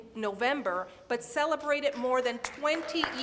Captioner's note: audience applauds